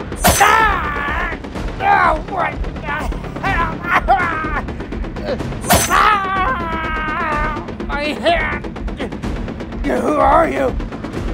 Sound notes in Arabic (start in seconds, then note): 0.2 رجل يئن; 3.4 رجل يصرخ; 7.9 رجل يصيح